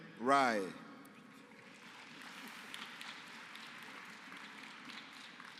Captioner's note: applause